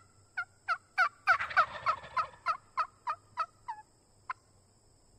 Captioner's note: turkey calling